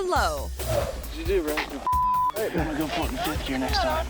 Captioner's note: beep